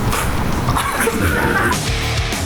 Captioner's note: laughter